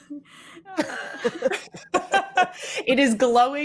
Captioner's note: laughing; all three laughing